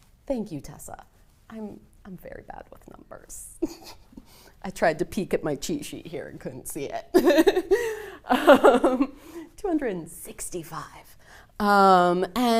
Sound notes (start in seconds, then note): 8.2 laughs